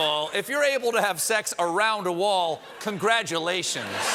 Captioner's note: applause; laughter; cheering